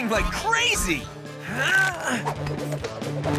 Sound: grunting

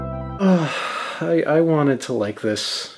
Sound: upbeat music plays; sighs

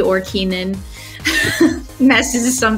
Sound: laughs

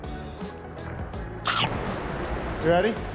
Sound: chomp

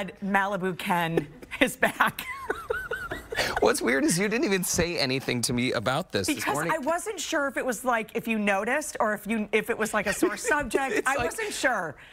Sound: laughter

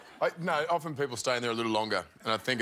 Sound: laughter

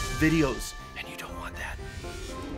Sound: whispers

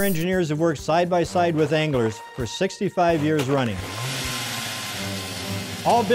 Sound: auger motor

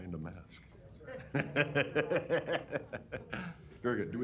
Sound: laughter

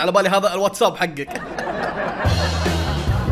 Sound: fake laughter

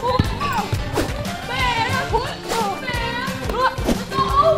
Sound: ball bouncing; whooshing

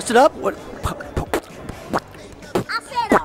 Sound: beatboxes

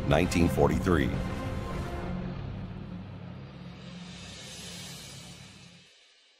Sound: airplane engine roaring

